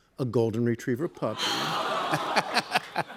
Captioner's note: audience aws